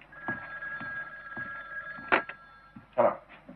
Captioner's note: phone ringing